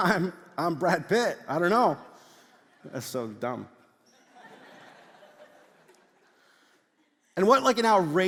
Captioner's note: congregation laughs